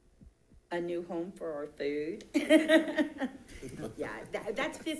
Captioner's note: chuckling